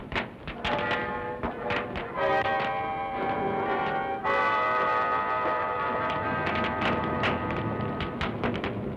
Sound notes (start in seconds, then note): 4.6 fire crackling